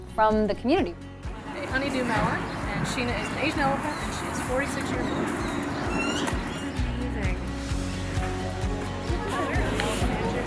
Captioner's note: background talking